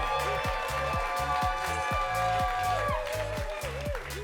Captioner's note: audience cheering